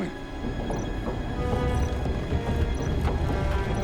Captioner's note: rumbling on monitor